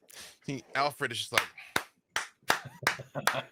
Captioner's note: slow clap